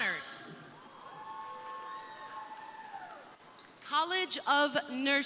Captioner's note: crowd cheering